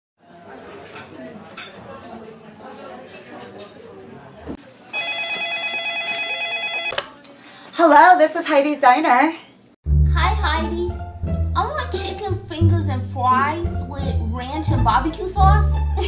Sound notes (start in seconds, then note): 0.2 people Talking at Restaurant; 4.9 phone Ringing